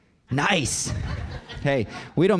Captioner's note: audience laughing